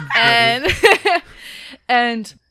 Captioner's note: laughter